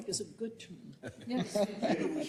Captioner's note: laugh